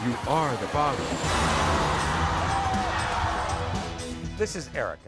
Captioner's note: audience cheers